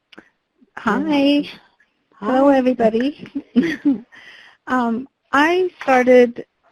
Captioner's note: laughs